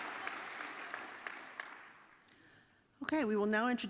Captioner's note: applause